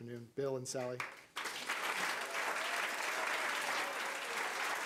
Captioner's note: crowd applause